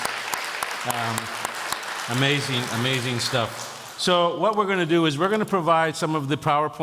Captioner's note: audience Applauding